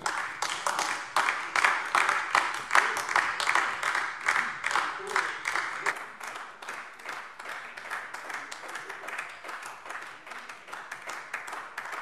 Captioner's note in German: Beifall AfD